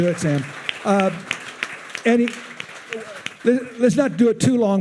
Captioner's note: attendees applauding